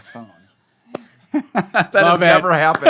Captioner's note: laughter